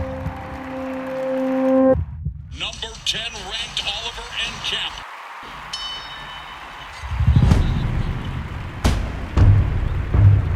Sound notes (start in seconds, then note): 5.6 bell rings